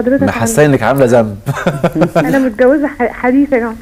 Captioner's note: laughs!